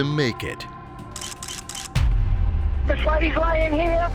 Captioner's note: camera shutters snapping